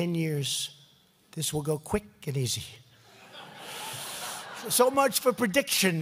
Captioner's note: laughter